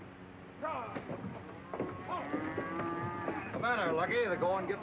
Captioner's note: men yelling; cattle lowing